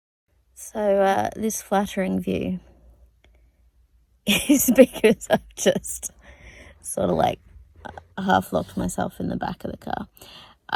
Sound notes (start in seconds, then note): 4.2 laughs